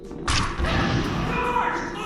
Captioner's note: boosh; mass_panic.mp3